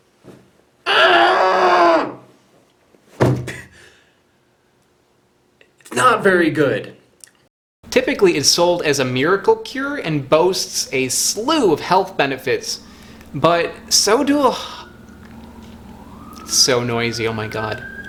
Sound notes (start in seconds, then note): 0.8 screams into pillow